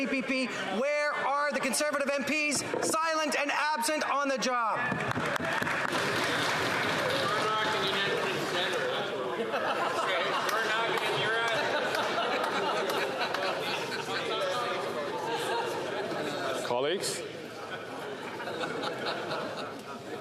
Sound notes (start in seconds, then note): 16.3 chatter; 17.6 laughter